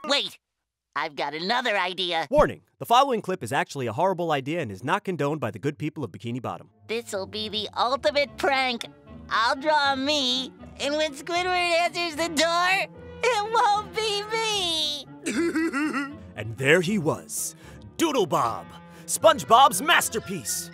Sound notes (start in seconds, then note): 15.2 giggling